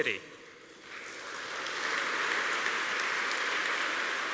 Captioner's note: applause